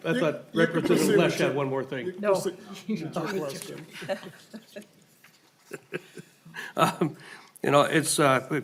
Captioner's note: laughing